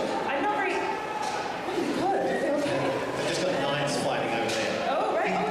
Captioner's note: loud sounds at convention